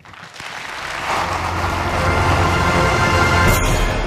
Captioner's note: Applause; 掌聲